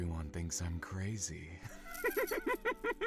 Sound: laughs

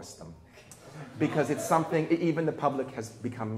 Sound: people laughing

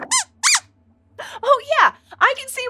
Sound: squeaks squeaks

